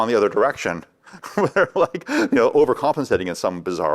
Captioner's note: laughs